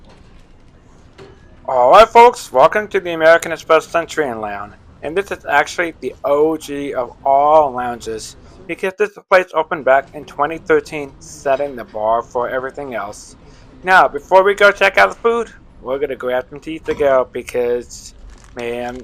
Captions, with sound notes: (Voiceover) All right, folks! Welcome to the American Express Centurion Lounge! And this is actually THE OG of all lounges. This place open back in 2013, setting the bar for everything else. Now, before we go check out the food, We're gonna go grab some tea to go because, man -